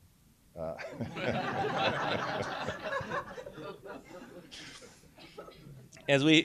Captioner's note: laughter